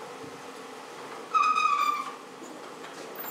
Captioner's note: squeaking